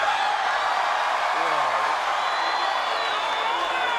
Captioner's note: crowd cheers